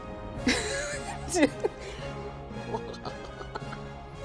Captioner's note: laughing